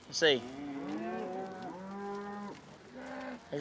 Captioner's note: cattle mooing